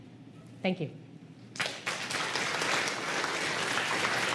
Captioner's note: applause